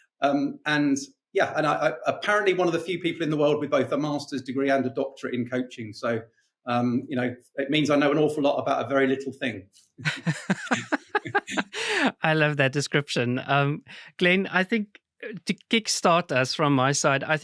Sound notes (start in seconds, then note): 10.0 both laughing